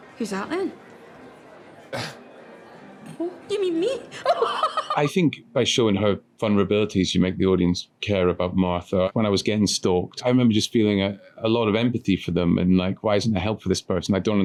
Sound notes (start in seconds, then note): 2.0 Donny laughs; 4.2 raucously laughing